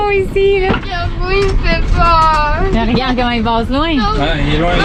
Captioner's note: child voice